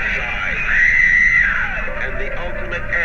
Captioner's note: screams